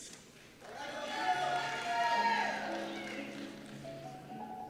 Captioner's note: cheers and Applause